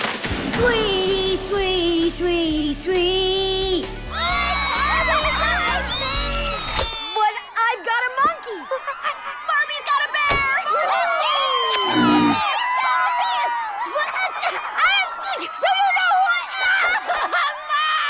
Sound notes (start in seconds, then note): 0.2 singing; 3.6 crowd continues cheering; 11.0 cheering; 11.8 bear grunts; 17.9 screaming and crying